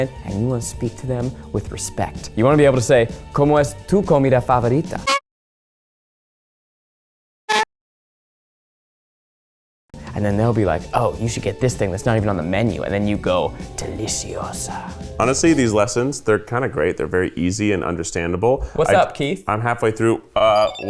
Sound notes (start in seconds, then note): 3.3 speaking Spanish